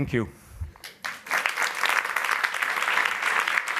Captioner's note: applause